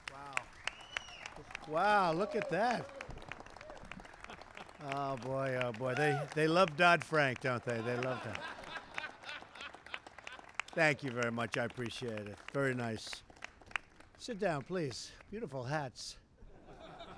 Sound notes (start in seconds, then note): 9.5 laughter